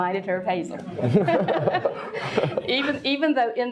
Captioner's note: all laugh